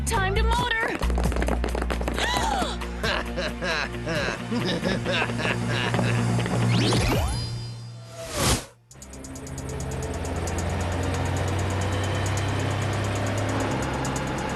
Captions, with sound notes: -Time to motor! [laughing]